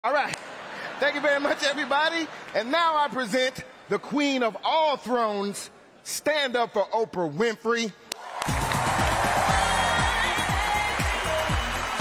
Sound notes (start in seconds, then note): 8.1 applause